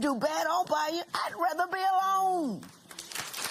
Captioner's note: applause